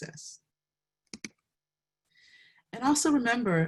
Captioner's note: mouse clicks